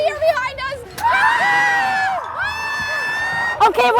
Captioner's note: screams